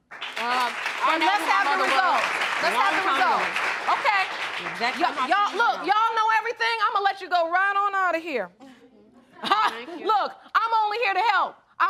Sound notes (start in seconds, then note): 6.9 scattered laughter; 9.5 laughs